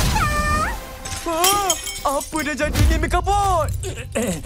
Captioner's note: Amato yelps